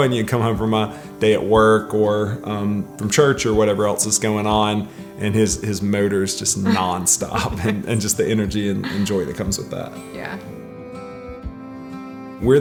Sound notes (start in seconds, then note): 6.6 chuckles; 11.1 sober music